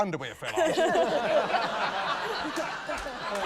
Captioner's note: laughter